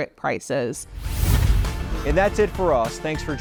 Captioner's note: scene swooshing